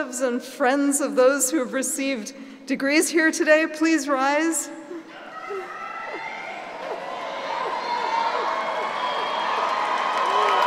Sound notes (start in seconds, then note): 6.3 cheering and applauding